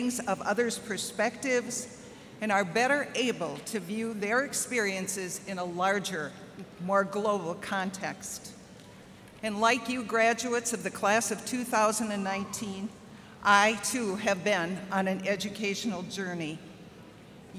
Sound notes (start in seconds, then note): none